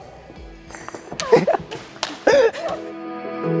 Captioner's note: chuckling